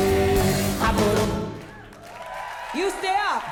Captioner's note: applause